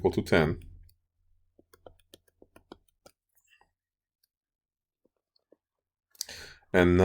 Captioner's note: clicking Sounds